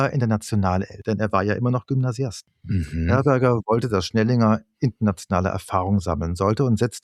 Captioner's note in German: räuspern